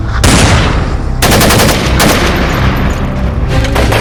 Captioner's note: gunshots